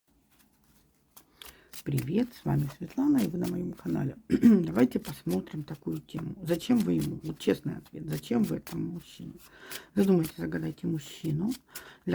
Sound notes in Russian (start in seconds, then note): 4.2 откашливается